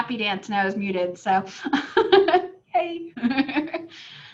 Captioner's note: laughs